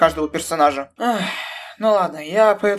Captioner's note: sigh